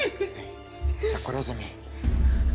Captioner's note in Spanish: Sollozos